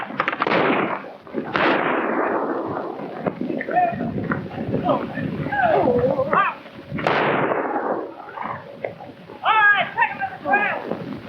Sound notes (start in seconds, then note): 1.3 guns firing; 6.6 men shouting